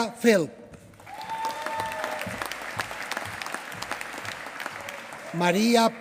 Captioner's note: applause